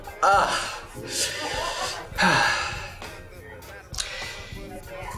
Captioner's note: sighs